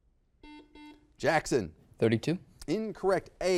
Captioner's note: buzzer beeps